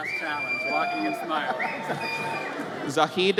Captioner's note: audience cheers